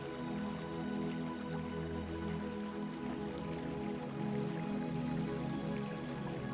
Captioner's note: water trickling